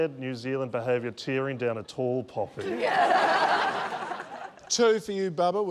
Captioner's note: laughter